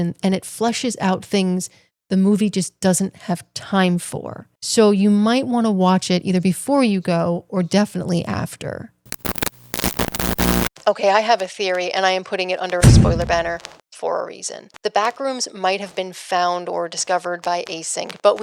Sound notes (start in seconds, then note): 9.0 TV Static